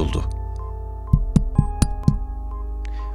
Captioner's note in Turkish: Mikrofona 5 kere tıklar